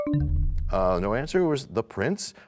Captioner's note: bell chimes, time expires